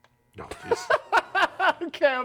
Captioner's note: laughing